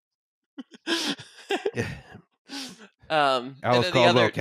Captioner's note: smattering of laughter